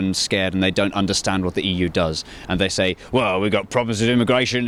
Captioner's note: imitates the London Cockney accent